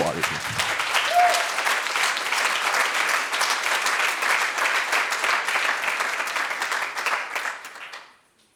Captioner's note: audience applauds